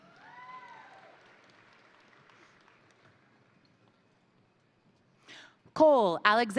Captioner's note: crowd cheering; crowd applauding